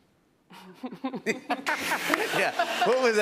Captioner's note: laughter